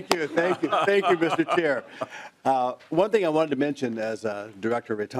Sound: laughing

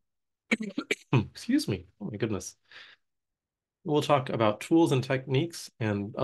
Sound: coughing

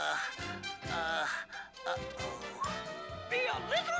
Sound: stammers

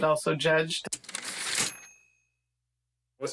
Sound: typewriter ding

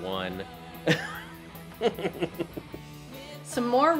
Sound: laughs

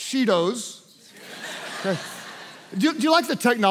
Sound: congregation laughs

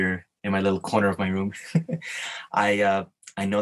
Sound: chuckles

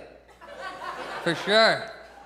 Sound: audience chuckles

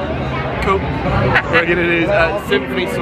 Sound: laughing

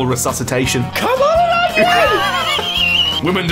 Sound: wheeze

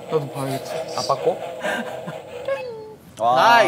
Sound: ?Laughing

